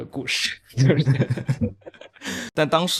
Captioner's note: laughs